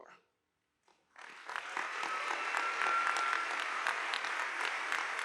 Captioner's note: audience applauding